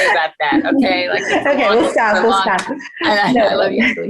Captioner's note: chuckles